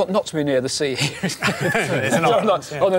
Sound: all laughing

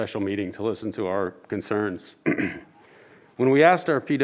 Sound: clears throat

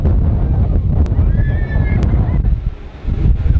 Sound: screams

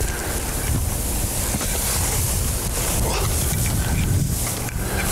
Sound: grass rustling, wind blowing

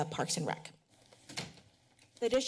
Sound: door closes

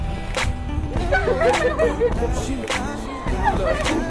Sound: laughing

